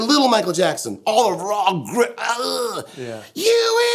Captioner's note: groans